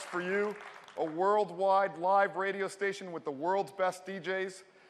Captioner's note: cheers and applause